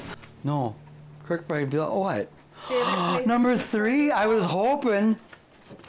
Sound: gasps happily

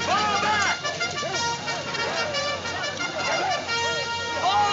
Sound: soldiers murmuring

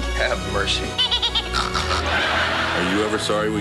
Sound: nasal laughing and snorting

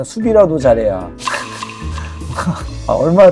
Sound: hahaha

